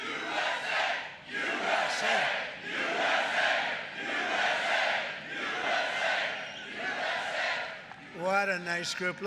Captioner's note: audience chanting "U.S.A."